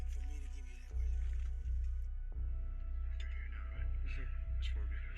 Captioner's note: speaking quietly